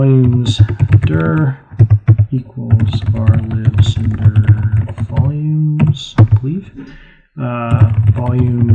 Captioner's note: typing